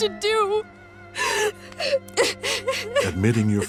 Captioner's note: crying